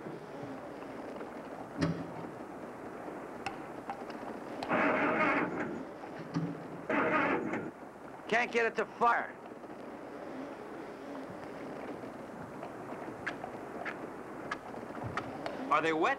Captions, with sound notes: (engine sputtering) Can't get it to fire. - Are they wet?